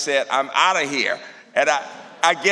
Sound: laughter

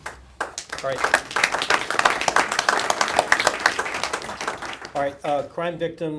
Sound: applause

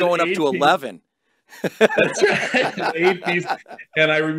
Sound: laughs

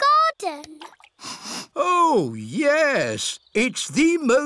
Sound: sniffs

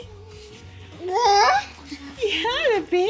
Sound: baby babble

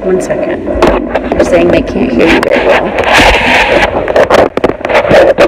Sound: microphone jostles and clicks

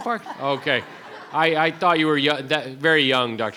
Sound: crowd giggling

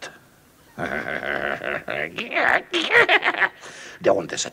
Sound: evil laugh

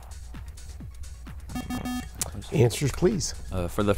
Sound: bell

